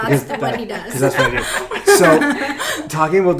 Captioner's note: laughing